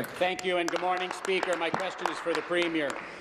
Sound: applause

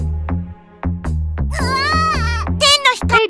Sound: pop gibberish

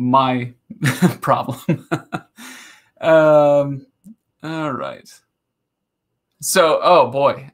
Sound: laughing

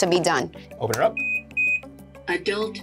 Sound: AED beeps

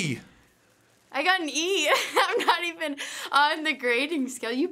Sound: laughing

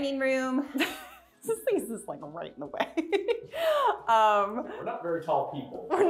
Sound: chuckles loudly

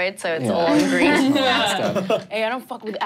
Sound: laughing

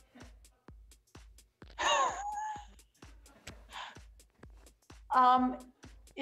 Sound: laughs

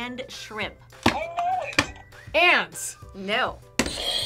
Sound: buzzer; buzzer rings

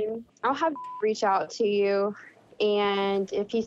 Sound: beeping

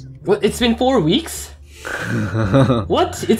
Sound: giggles

